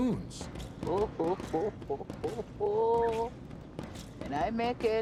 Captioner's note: Madam President laughing